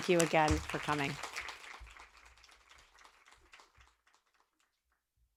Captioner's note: audience applauding